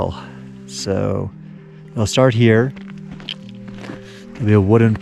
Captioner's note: footsteps rustling